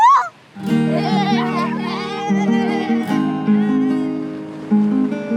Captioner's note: kids laughing